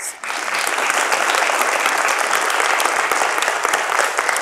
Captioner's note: audience applauding